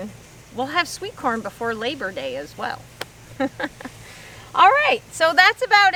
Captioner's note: chuckles